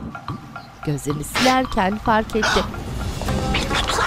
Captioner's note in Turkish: Burun çekme sesi